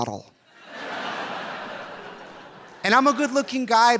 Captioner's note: audience laughing